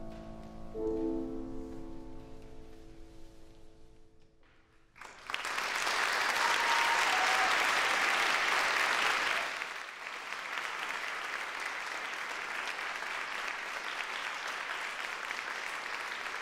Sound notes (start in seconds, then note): 5.0 applause, cheering; 14.0 applause